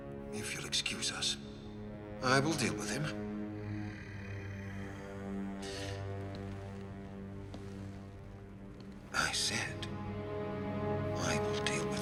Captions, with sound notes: If you'll excuse us, I will deal with him. [growling] I said, I will deal with him.